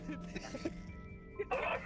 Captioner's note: laughs